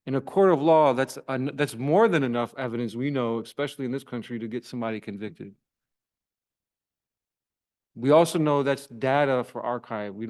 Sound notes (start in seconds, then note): none